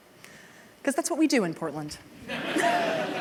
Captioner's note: laughter